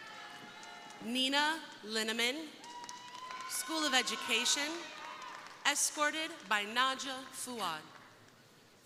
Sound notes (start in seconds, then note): 0.0 crowd cheering; 4.9 crowd applauding; 4.9 crowd cheering